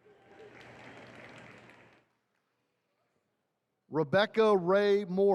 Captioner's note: attendees clapping